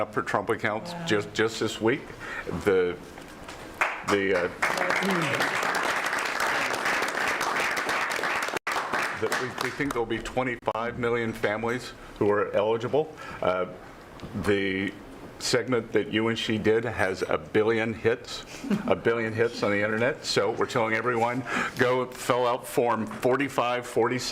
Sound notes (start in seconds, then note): 6.1 applause